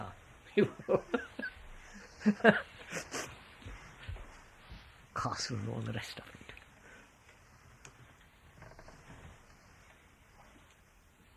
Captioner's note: laughs